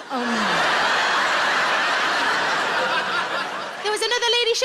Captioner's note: audience laughs